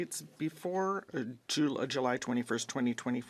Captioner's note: speaking French